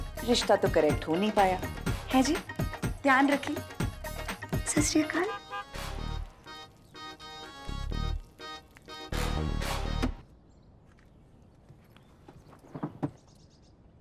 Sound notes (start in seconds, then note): 9.9 door opens